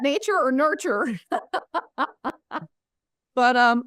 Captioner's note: laughs